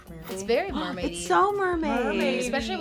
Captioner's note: gasps